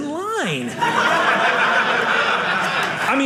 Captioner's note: audience laughing